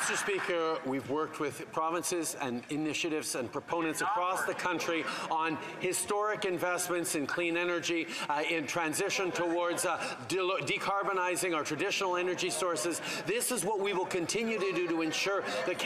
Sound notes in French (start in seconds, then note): 1.8 voix de l'interprète